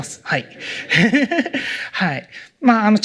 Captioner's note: laughter